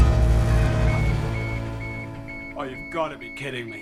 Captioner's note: beeping